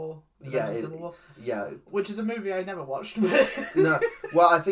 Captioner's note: laughs